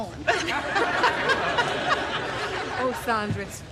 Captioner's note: all laughing